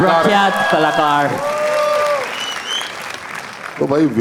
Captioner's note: crowd applauding